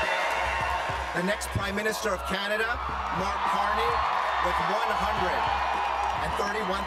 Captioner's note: cheering